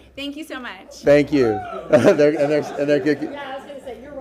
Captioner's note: distant screaming